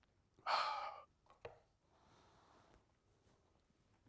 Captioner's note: sighing